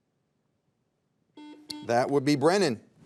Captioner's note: buzzer dings